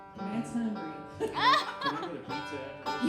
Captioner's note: laughing